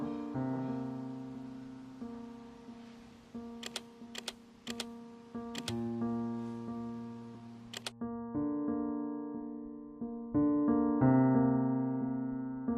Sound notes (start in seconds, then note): 3.6 keyboard typing; 7.7 music continues playing